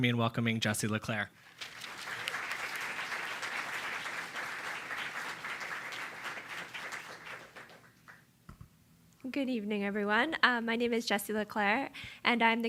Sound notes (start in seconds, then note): 1.4 applause